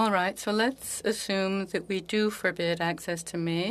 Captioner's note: speaking French